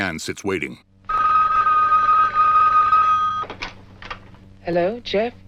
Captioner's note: phone ringing